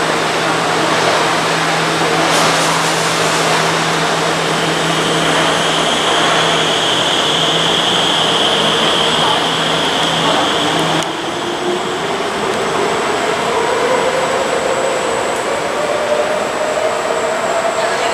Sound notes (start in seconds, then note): 2.3 train air brake release; 4.1 train engine accel